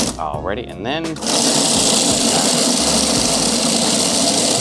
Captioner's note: machine buzzing